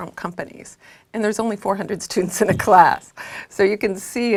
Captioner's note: laugh